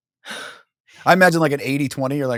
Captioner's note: sighs